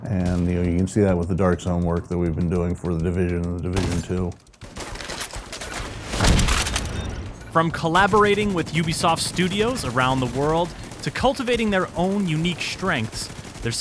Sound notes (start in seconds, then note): 4.5 gunfire; 5.7 explosion booming